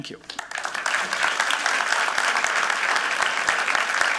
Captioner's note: applause